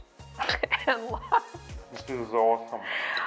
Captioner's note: laughs